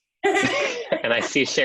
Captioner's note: laughs